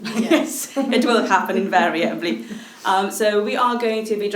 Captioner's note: ladies chuckling